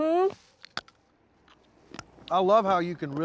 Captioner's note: crunching